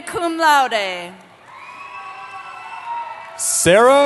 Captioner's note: cheering